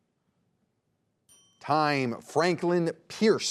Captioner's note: bell dinging